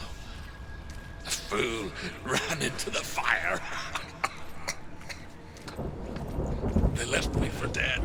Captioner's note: laugh turns into hacking cough